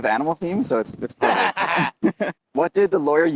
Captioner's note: both laugh